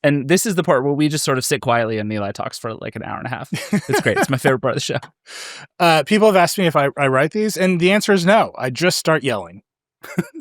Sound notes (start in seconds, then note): 3.5 laughs